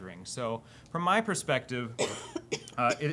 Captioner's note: coughing